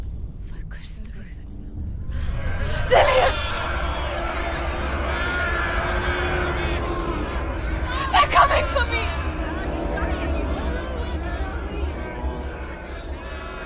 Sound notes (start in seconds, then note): 0.6 whisper; 2.3 sounds of commotion appear; 4.5 sounds of commotion continue